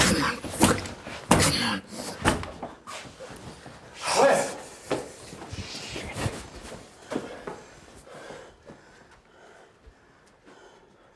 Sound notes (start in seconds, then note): 4.0 Wes grunting